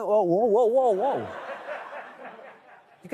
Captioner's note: laughter